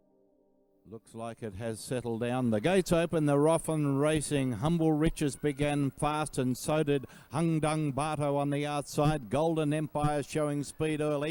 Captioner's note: commentator speaking